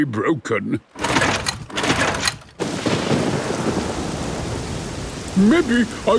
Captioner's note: engine struggling